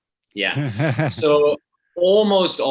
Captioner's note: laughs loudly